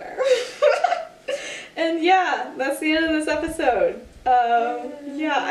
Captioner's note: laugh